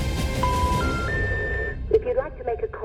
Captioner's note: intense music; phone beeps